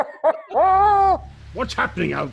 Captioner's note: laughs